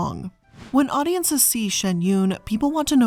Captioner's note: air whooshing